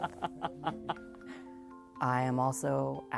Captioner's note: laughing